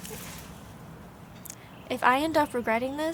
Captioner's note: birds chirping